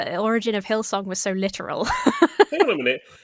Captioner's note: laughs